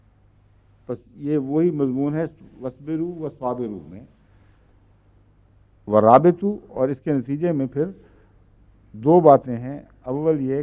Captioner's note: Arabic